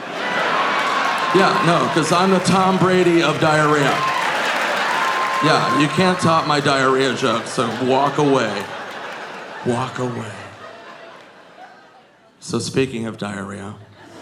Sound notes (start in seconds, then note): 0.1 audience laughing; 4.9 audience cheering